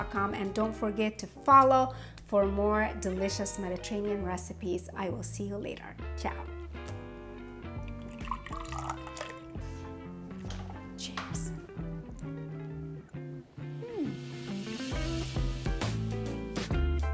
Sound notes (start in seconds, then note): 7.1 gentle music; 7.4 cucumber juice trickles; 12.0 gentle music; 14.6 upbeat music